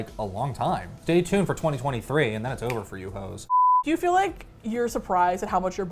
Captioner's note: snaps